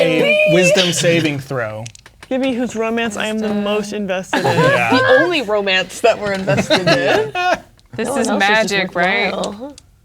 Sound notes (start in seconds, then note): 4.3 players laughing